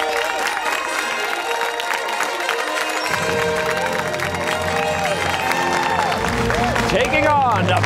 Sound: fanfare; cheers and applause

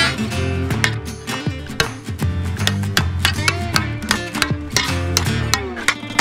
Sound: sharp chopping sounds

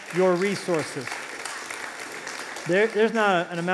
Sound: applause

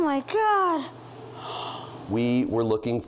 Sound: gasps

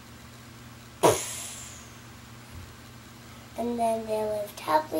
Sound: imitating fight impacts

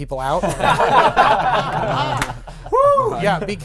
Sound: laughing

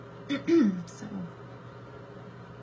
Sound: clears throat

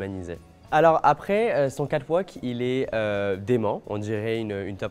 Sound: speaking French

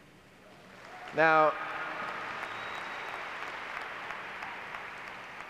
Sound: clapping and cheering

